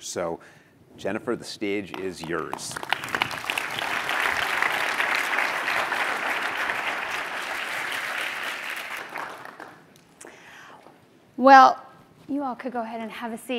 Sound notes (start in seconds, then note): 1.8 applause